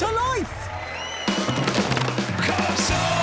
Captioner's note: cheering